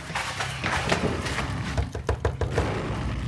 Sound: door knocks; growls demonically

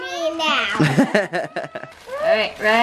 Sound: laughter

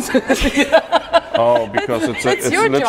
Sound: laughs

